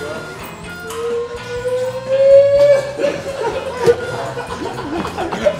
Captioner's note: player cheering